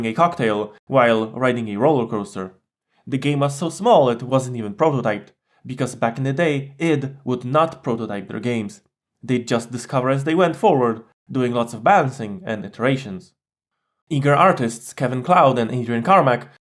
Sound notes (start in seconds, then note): none